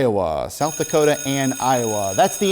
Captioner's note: bell ringing